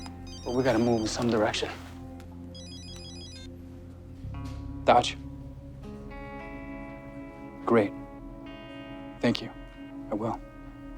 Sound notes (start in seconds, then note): 2.5 beeps